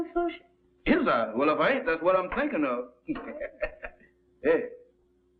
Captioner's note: chuckles